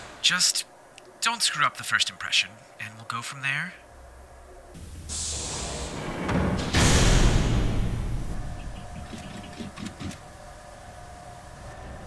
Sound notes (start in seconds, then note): 5.3 pressure door opens and closes